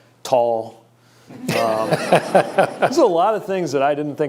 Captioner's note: laughter